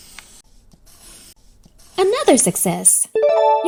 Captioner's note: pencil scratches; check mark dings